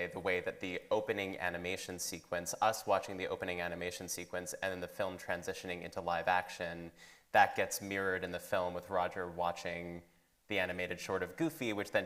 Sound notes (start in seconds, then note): none